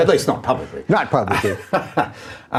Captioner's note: laughing